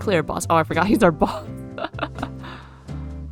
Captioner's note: laughs